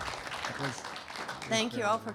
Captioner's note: audience applauding